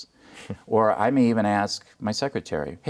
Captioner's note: laughing